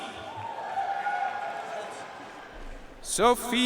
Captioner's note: audience cheering and applauding